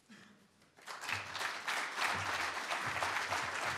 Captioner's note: applause